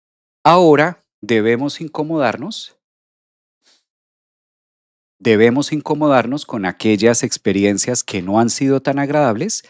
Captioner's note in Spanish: resoplido